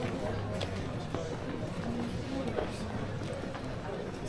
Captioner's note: people chattering